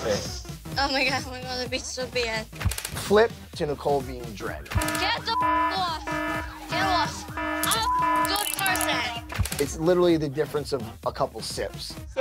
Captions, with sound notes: Flip. To Nicole being a drag. (loud beeping) - Get the (beep) off me. It's literally the difference of a couple sips. - So pretty, bitch.